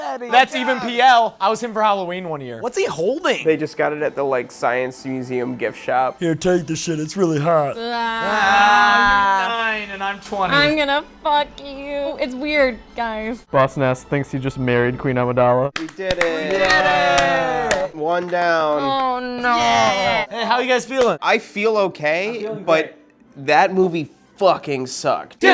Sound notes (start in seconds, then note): 7.6 groans; 15.7 cheering and clapping; 19.3 groans